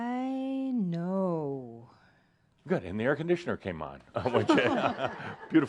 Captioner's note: they chuckle